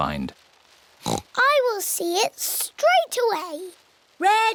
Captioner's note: oinks